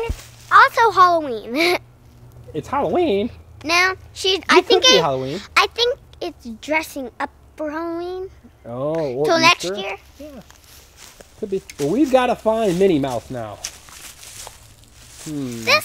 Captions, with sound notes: - And it's also Halloween. - [Voiceover] It's Halloween? - No. I think it's dressing up for Halloween. 'Til next year. - [Voiceover] We've gotta find Minnie Mouse now.